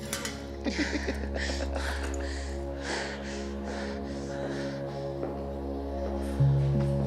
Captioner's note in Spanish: risas